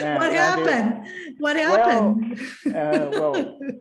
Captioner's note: laughs